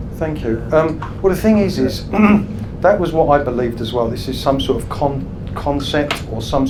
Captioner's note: clears throat